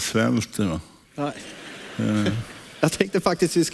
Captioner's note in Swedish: publiken skrattar